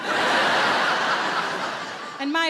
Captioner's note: audience laughs